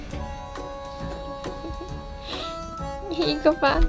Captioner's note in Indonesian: tertawa